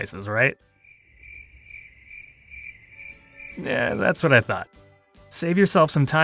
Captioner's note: crickets